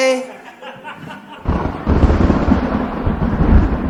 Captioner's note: thunder sounds